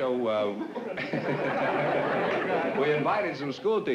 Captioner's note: laughter